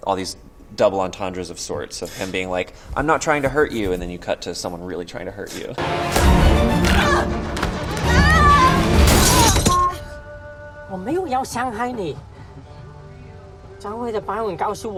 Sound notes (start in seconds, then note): 5.8 dramatic sound; 8.0 screaming; 9.8 horn honks; 11.0 speaking in foreign language